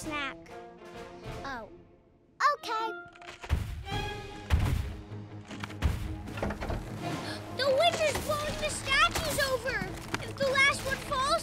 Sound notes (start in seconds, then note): 2.7 distant thuds